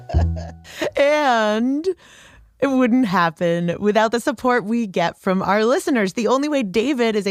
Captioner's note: laughs